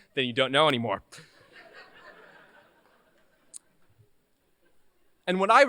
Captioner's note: laughter